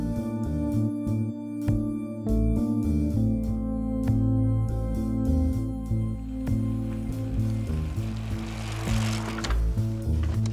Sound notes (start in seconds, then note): 6.2 bike rattling